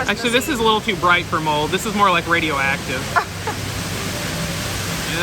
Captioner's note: laughs